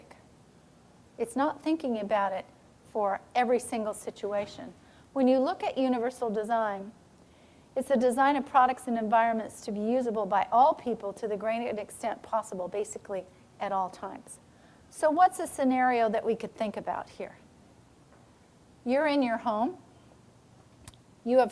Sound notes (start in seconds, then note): none